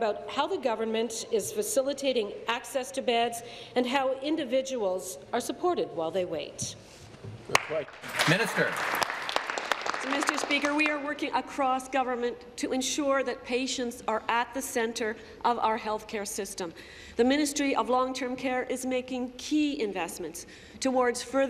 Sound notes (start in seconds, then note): 10.8 applause